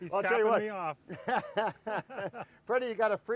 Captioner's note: laughter